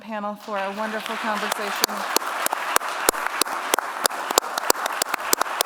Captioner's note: applause